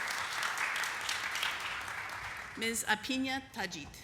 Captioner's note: applause